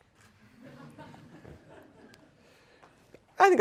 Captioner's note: laughter